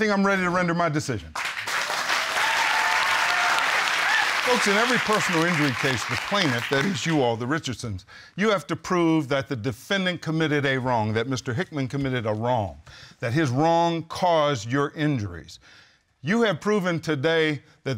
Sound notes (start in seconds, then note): 3.2 audience applauding